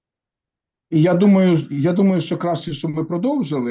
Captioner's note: non-english speech